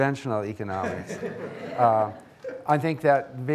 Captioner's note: audience laughing